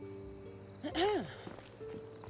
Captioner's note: clears throat